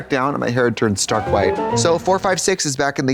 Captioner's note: bright chime